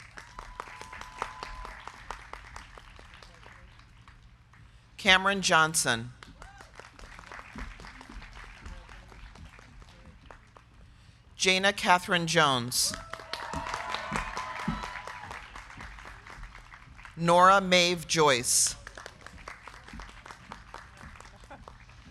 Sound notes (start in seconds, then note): 0.0 crowd cheering; 0.0 crowd clapping; 12.5 crowd clapping; 12.8 crowd cheering; 19.2 crowd clapping